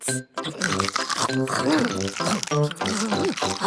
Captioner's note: crunch